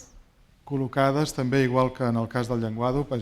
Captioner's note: speaking spanish